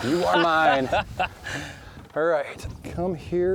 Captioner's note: laughing